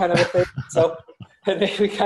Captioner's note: both laugh